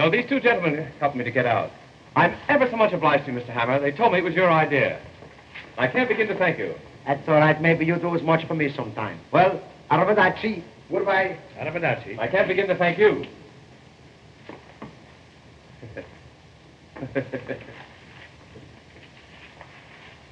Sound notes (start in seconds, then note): 16.9 bob chuckling